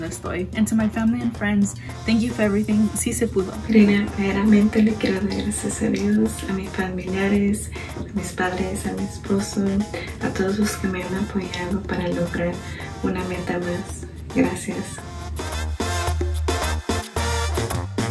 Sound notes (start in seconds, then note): 3.8 speaks in foreign language; 15.3 upbeat music